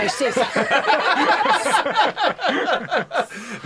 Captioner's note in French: rires